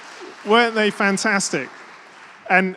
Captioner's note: applause